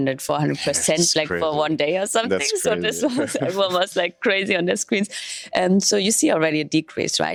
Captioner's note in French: rires …